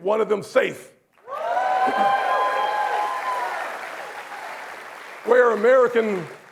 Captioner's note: applause